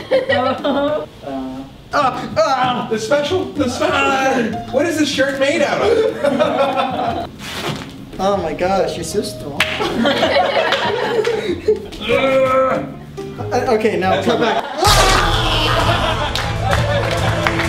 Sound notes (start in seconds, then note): 9.9 all laugh; 11.4 makes straining noise